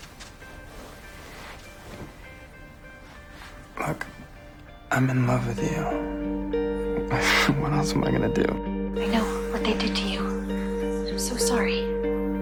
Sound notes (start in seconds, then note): 6.9 laughing; 9.1 voiceover